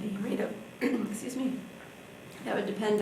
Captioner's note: clearing throat